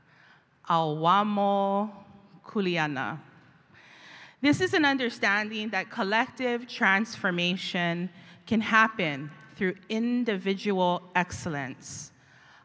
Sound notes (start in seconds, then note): none